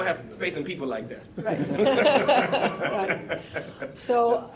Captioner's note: laughing